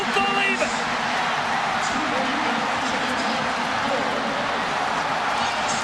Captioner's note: crowd cheering